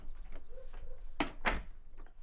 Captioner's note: door shutting